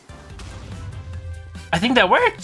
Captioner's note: explosion